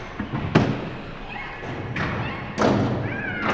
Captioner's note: banging